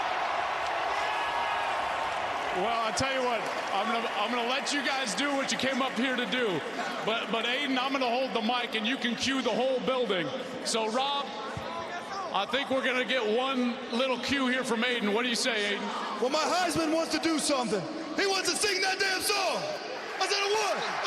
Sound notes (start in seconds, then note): 8.1 cheers and applause